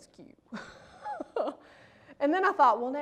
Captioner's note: laughs